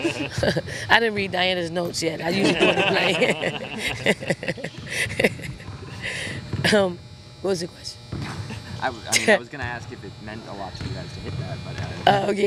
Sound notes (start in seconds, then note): 0.0 interviewers laughing; 2.0 laughs